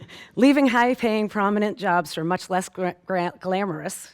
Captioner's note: stammers